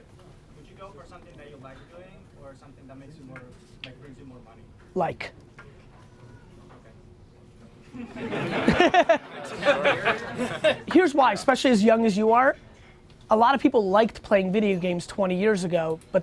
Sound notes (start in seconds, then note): 7.9 crowd laughs